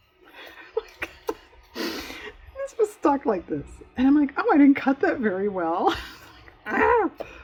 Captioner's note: laughs